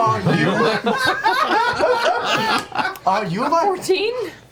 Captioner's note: all laugh